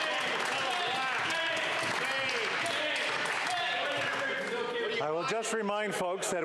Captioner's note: cheering and APPLAUSE